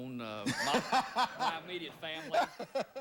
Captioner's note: audience laughing